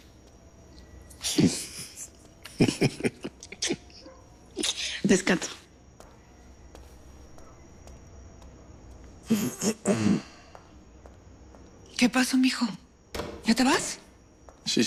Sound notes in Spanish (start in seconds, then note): 2.4 Risas; 11.0 Carraspea